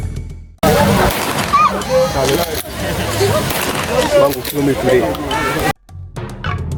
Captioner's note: gun shot